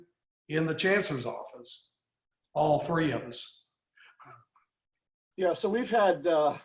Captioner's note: laughs